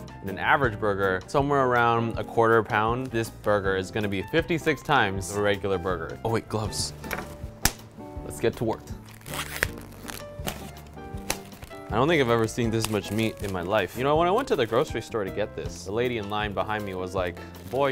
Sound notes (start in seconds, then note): 7.1 gloves snap; 9.0 package squeaks